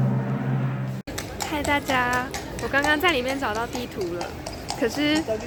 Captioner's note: background sound is clopping~